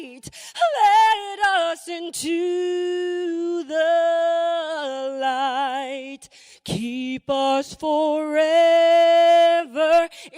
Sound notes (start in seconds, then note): none